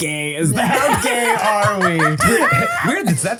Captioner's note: laughs